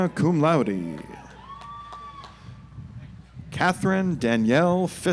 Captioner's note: audience applauds